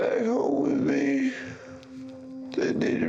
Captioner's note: sobbing